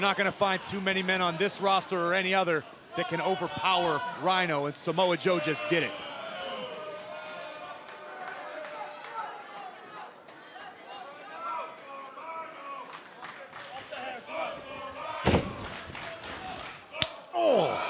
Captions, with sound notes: >> YOU'RE NOT GONNA FIND TOO MANY MEN ON THIS ROSTER OR ANY OTHER THAT CAN OVERPOWER RHINO AND SAMOA JOE JUST DID IT. >> [CROWD CHEERING]